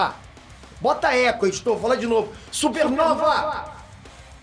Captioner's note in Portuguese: Voz do com eco